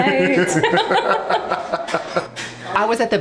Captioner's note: laughing